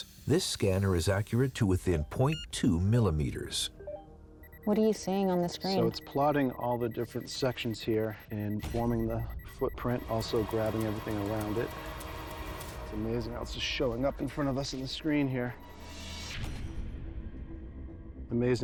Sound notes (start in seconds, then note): 3.6 beeping; 15.9 suspenseful music